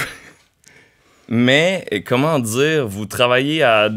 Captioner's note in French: petit rire